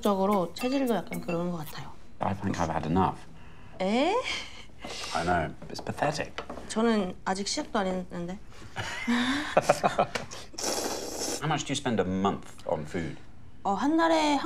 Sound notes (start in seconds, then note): 8.4 laughs; 10.6 slurping